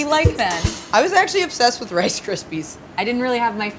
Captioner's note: laughs